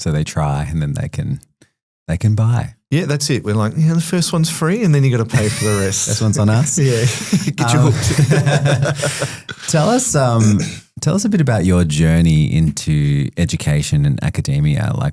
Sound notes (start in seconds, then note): 8.5 laugh